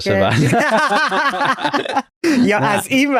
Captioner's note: laughs